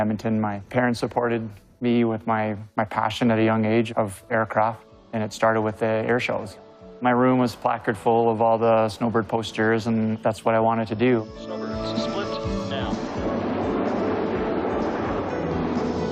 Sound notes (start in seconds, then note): 11.7 man over radio; 14.4 aircrafts whooshing